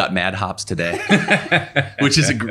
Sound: everyone laughing

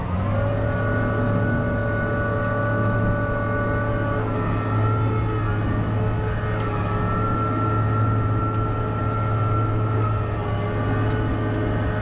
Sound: tractor sound

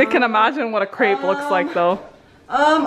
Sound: confused sounds

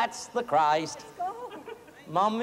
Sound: weeping

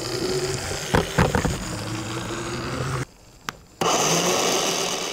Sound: plant whirring; banging; loud whirring

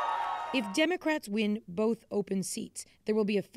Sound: cheers and Applause

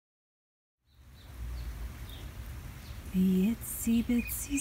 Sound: rain falling, birds chirping

